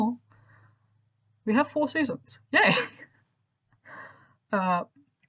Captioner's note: in a higher pitch voice; regular voice